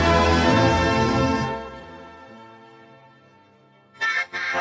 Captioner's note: indistinct chatter; music fades; both laughing